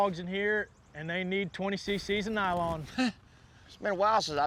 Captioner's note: chuckles